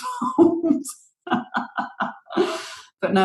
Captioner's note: laughs